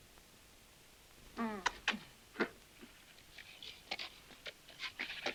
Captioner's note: Lupe groans